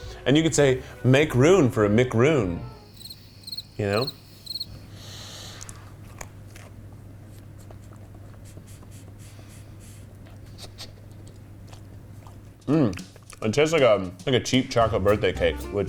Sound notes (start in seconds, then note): 2.7 crickets chirping